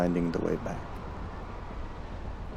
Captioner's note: wind howls